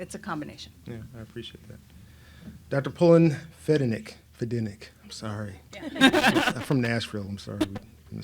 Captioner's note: laughter